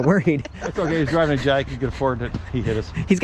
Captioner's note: laughing loudly